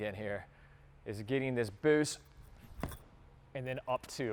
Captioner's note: foot thuds